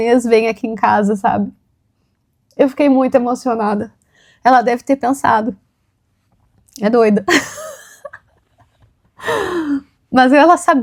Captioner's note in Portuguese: risadas